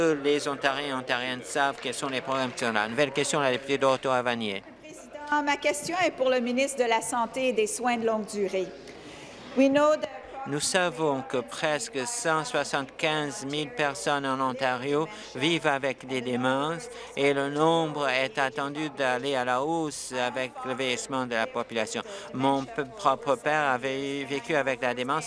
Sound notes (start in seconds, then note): 8.0 speaking in French